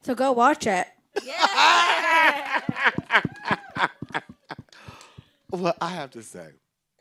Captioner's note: group laughing and cheering